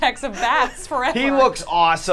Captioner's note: laughs